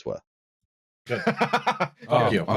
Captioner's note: laughs